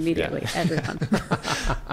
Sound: laughs

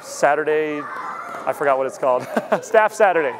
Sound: laughs

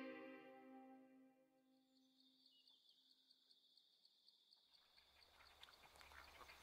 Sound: birds chirping

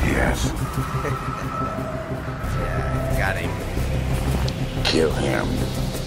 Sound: chuckles

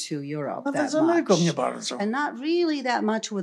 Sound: foreign language

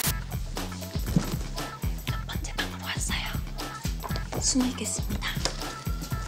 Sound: whisper

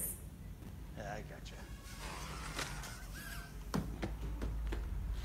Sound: toy plane whizzing

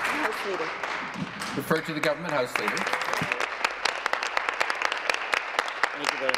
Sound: applause

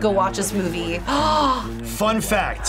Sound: gasps

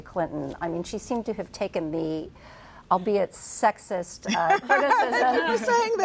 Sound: laughter

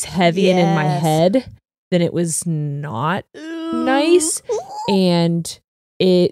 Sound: shrieks

